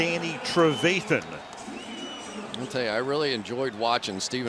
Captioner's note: pa announcement